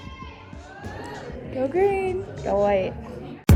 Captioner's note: team whooping